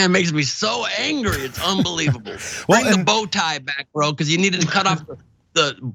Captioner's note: laugh